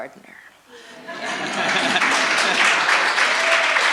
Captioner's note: applause